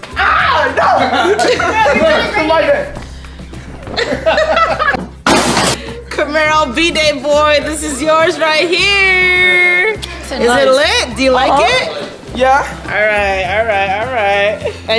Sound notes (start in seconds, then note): 0.7 laughs; 2.8 body thuds; 3.8 laughs